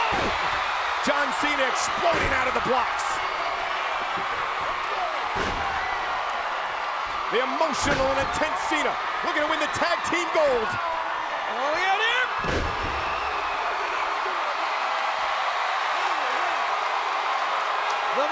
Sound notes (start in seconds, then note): 0.1 body thudding; 5.3 body thudding; 7.8 body thudding continues; 12.4 body thudding; 13.5 crowd cheering